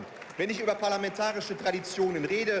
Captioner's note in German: Beifall